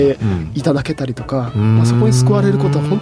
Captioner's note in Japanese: 咳払い